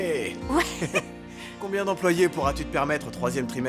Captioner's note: laughing